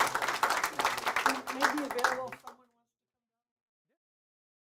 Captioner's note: host speaks faintly